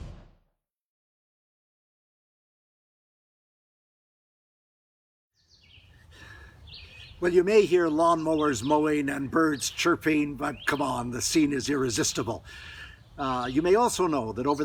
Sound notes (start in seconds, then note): 5.5 birds chirping